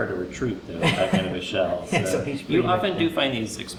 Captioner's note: laughs